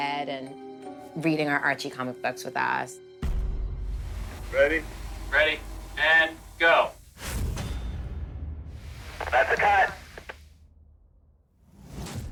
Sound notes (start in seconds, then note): 6.8 electronic tones echoing